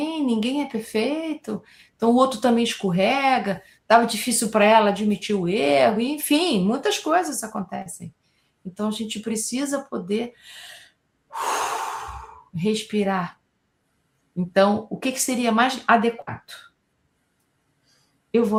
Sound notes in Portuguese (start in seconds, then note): 11.3 suspirando